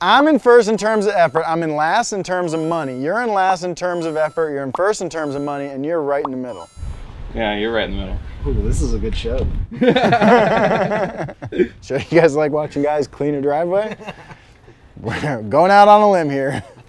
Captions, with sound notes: I'm in first in terms of effort. I'm in last in terms of money. You're in last in terms of effort. You're in first in terms of money. And you're right in the middle. - Yeah, you're right in the middle. - Ooh, this is a good show. (laughter) - You guys like watching guys clean a driveway? Going out on a limb here.